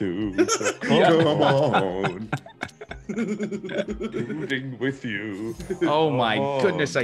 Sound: laugh

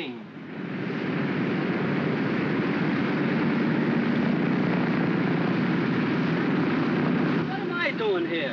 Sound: aircraft rumbling

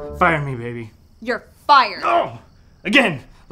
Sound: Peter yells

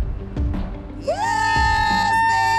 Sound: cheering

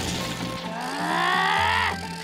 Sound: growling

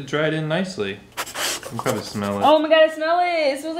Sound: zipper unzipping; sniffing

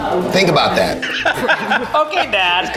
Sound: everyone laughs

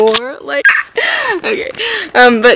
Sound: laughs

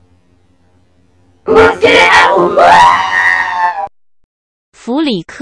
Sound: screams

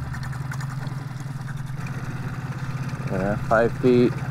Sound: engine putters

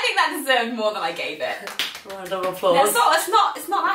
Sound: claps in a circle

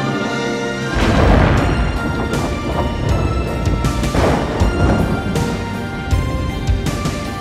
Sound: dynamic music; thunder crashing

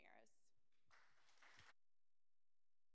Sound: applause

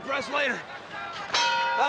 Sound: bell rings

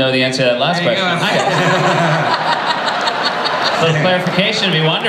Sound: laughter

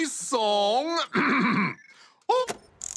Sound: clears throat

